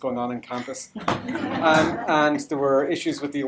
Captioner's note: laughter